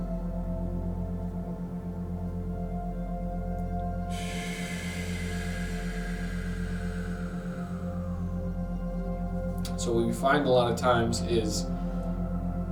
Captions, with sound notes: (exhales) So what we find a lot of times is